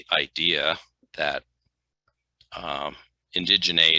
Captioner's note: none